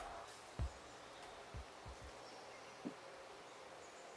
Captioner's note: birds chirping